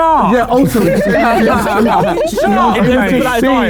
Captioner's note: group laughing